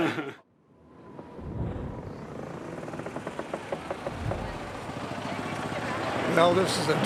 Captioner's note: windmill turning